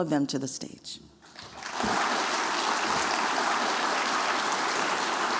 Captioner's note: applause